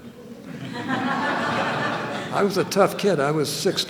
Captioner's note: laughter